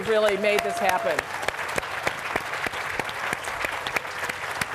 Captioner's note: applause